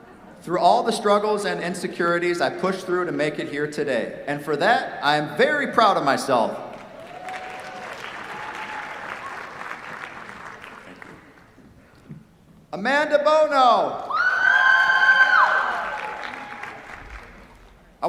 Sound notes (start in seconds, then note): 6.7 applause; 14.0 cheers, applause